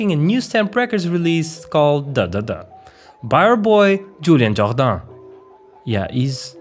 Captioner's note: french accent